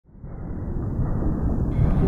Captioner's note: ocean sounds